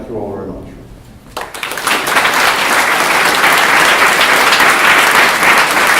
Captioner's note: applause